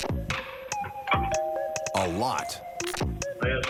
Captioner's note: doorbell ringing